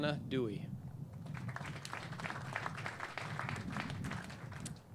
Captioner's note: clapping